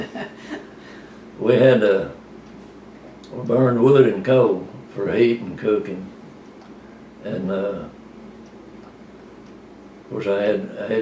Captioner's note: laughter